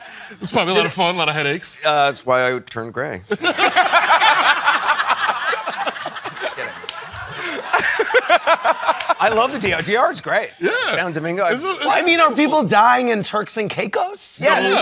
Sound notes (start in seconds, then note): 3.3 laughter; 7.6 laughing